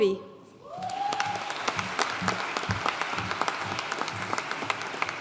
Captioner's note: audience cheering and applauding